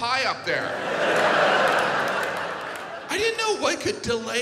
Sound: audience laughs

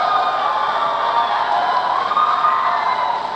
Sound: the crowd roars

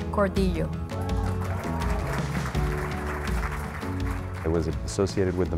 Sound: applause

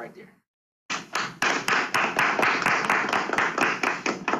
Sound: students clap

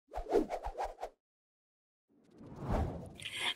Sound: air whooshing

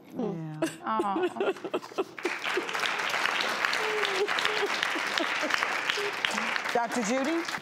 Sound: cries; audience claps

